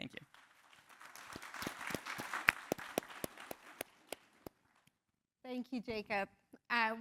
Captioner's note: applause